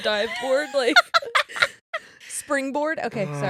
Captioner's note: laughing